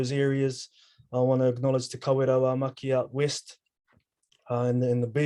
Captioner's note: speaking foreign language